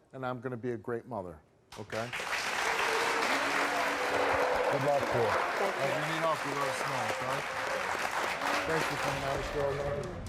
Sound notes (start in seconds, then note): 1.9 audience applauds